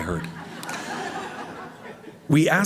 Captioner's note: laughter